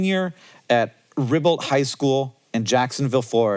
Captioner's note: none